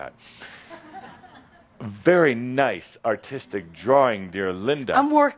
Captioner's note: some chuckles